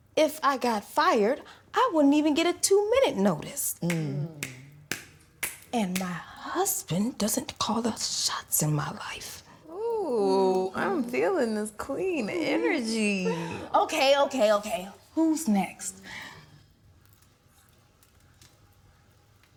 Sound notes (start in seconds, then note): 3.8 snapping fingers